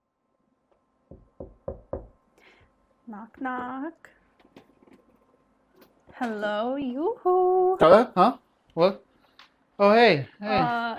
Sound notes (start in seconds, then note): 1.1 knocking sound